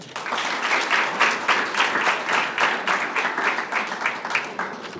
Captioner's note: audience applauding